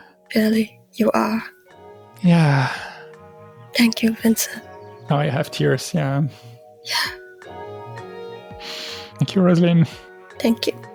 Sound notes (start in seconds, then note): 2.5 sigh